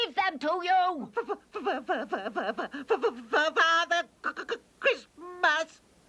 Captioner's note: stammering